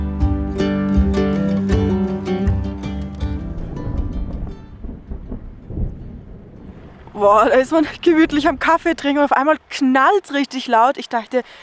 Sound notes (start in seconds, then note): 3.6 thunder